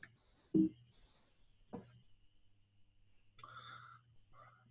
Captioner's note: computer beeps